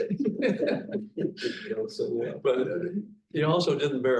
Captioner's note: panelists laughing